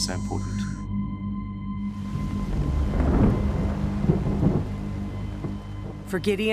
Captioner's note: thunder rumbling